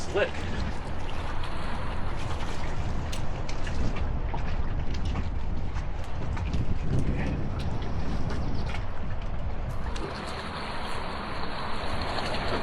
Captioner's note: water trickling